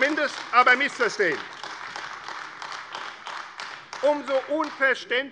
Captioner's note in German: Beifall AfD